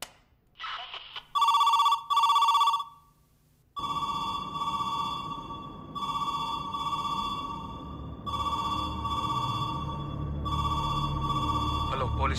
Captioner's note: phone rings continuously